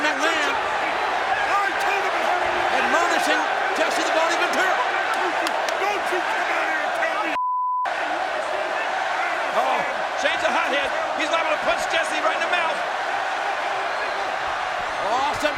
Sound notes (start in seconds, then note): 7.3 beeps